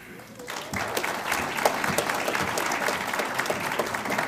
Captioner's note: audience applauds